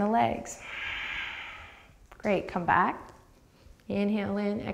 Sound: deep breath

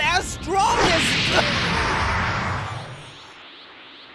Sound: wheeze

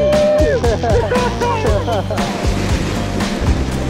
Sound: guys laughing

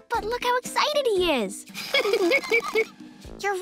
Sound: laughing

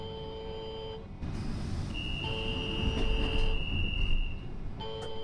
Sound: departing beep sound; doors closing

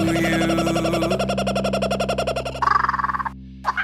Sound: bird singing

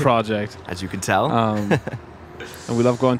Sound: laughs

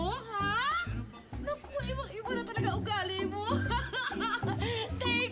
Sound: laughs

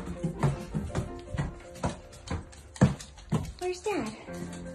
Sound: footsteps clacking

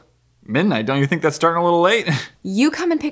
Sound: nervous Laugh

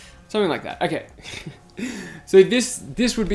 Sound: chuckles

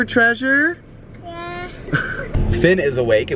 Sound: laughs

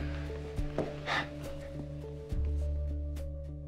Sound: sighs

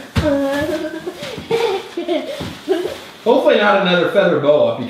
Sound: girl laughs

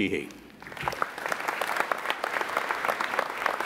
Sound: applauding

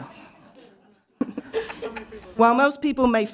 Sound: laughter

